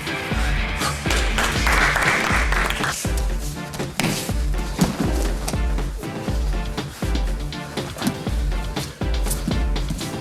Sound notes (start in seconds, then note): 0.7 audience applauding; 3.8 soft rock music